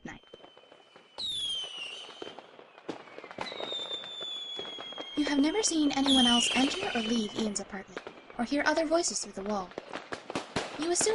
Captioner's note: sounds of fireworks from next door